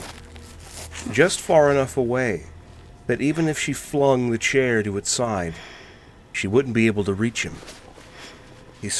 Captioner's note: shifting sounds